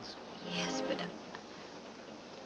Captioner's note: none